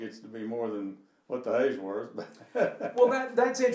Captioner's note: laughing